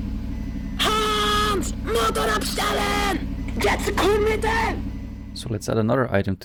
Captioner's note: shouting in German